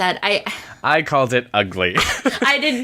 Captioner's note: laughs